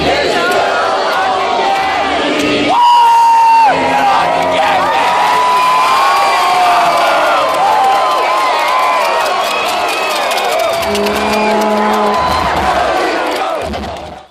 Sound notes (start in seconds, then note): 6.3 wooing, cheering, whistling and clapping